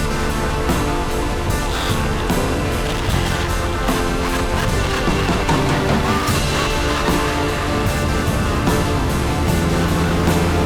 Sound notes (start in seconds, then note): 4.5 laughter; 7.1 chill rock instrumental